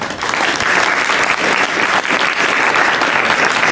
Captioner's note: applause